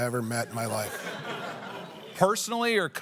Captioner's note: laughter